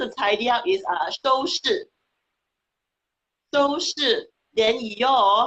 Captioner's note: speaking foreign language